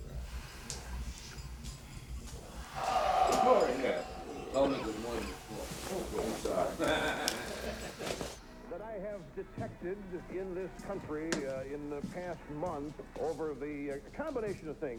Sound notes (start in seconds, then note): 2.4 men's voices; 6.4 laughing